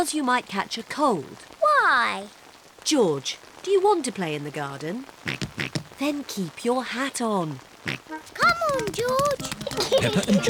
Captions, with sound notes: Because you might catch a cold. Why? George, do you want to play in the garden? (OINKING) -Than keep your hat on! -(OINKS) -Come on, George. -(GIGGLES)